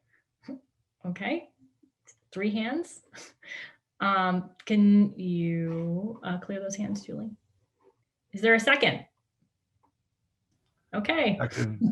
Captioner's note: chuckles